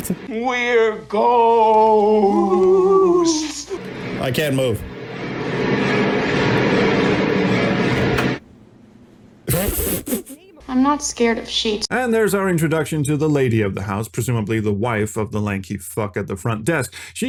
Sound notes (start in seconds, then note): 9.5 laughs